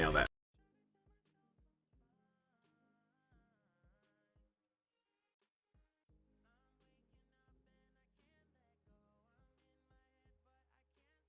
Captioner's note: silence